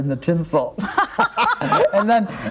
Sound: laughing

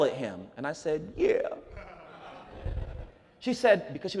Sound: audience laughs

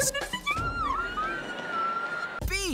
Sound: screaming

